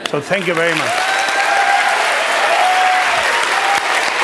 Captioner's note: applause, cheers